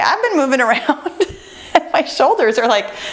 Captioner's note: laughing